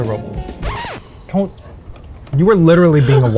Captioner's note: record scratching